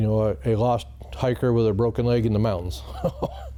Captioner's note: chuckles